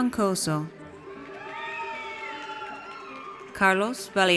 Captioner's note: audience cheers